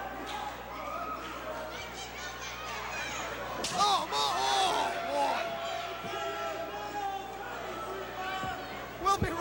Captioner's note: crowd chatter